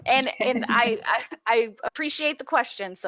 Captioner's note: laughs